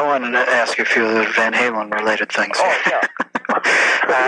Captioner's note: chuckles